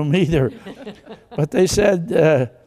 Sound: congregation laughs

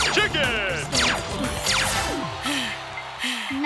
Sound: Hal gasps

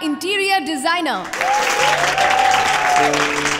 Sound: everybody clapping

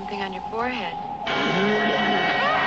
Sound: moaning; screaming

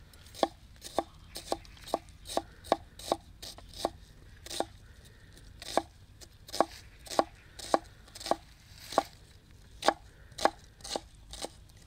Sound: chopping sound

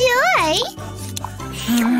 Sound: groans; taking a sip

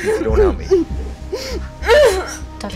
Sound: groans

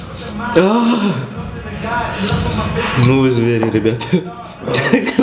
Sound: orgasm

